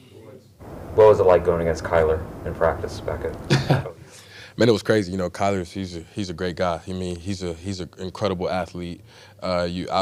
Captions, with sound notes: - What was it like going against Collier in practice? (laughs) - Man, it was crazy, you know, Collier he's, he's a great guy. He mean, he's, he's an incredible athlete.